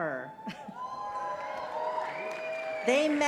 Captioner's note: cheers